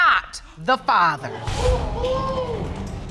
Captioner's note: audience exclaim